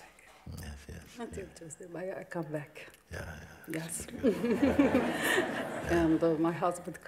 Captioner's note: smiech